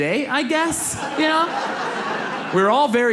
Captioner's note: audience laughs